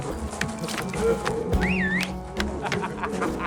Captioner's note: man whistles; laughter